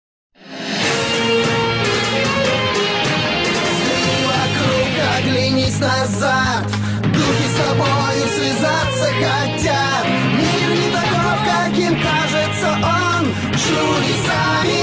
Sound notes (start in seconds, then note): 5.7 very lively cheers; 6.9 cheers, very loud cries of “War! War!”